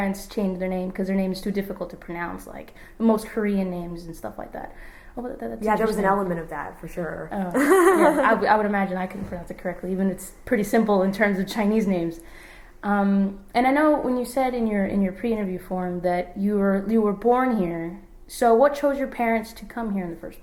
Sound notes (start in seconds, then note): 7.5 laughs